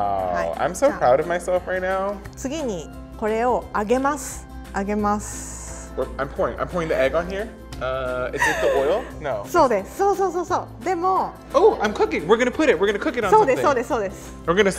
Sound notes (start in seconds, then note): 8.3 laughs